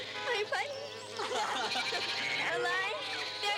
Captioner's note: kids laughing